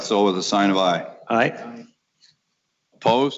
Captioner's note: multiple voices